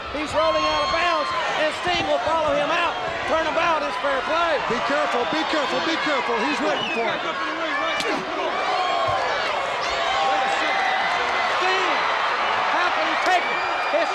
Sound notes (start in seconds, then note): 8.0 chop striking; 8.0 crowd cheering